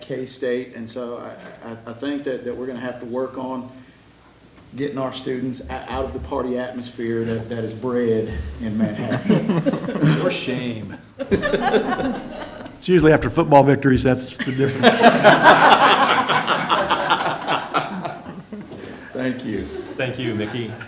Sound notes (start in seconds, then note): 8.7 laughter; 14.4 laughter